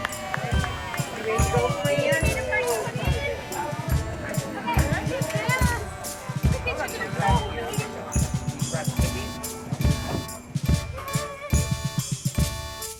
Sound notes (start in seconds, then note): 0.0 cheering and applause; 1.6 chatter; 9.4 parade music